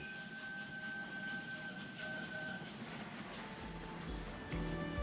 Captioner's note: sound of steam train and whistle in the distance